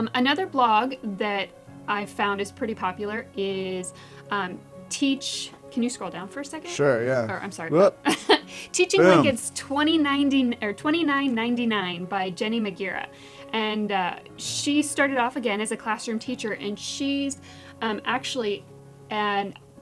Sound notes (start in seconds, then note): 8.6 laugh